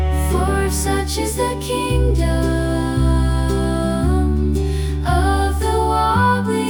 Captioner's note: outro: group humming